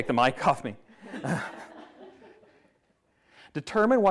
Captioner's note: everyone laughs